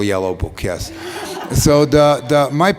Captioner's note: laughter